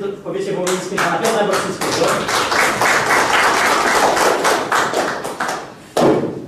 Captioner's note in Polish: oklaski